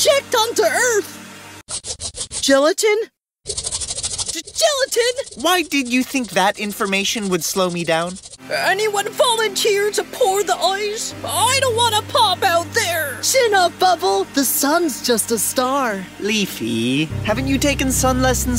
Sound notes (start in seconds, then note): 3.4 scratching noise gets faster/louder; 3.4 scratching noise plays